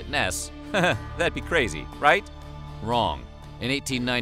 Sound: laughs

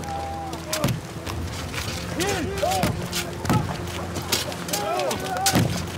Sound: ground thudding; workmen yelling

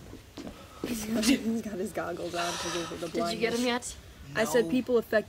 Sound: giggling

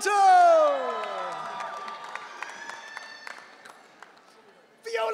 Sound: audience cheering

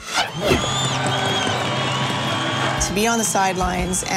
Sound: cheers, whistles

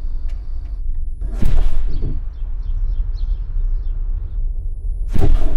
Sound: birds chirping

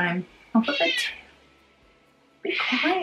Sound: birds screeching

